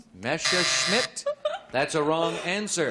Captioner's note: buzzer